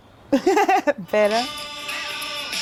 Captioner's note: chuckles